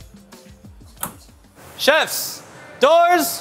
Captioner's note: door clicks